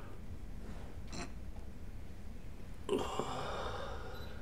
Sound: grunts

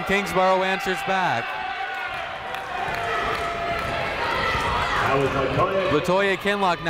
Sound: people shouting in the crowd

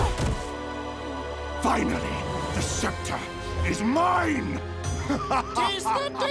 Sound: laughing

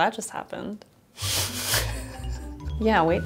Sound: laughs

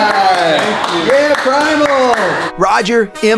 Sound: clapping

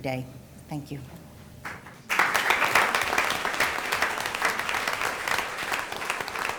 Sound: applause

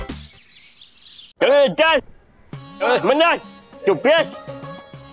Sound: talking gibberish

